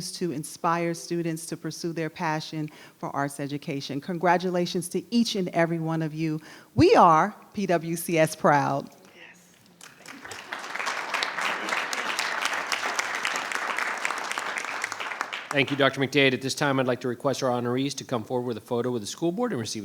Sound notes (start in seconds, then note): 9.8 audience applauding